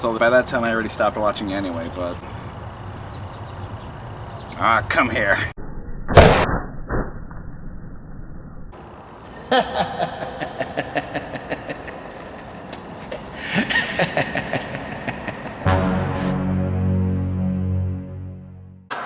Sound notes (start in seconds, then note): 9.5 laughing; 15.6 suspenseful music; 18.9 static crackling